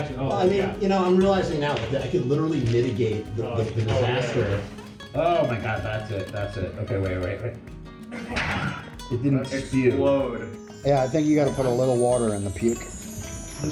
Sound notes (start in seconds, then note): 8.1 vomit spew; 10.2 chimes